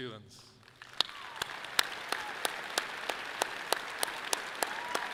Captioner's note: audience clapping loudly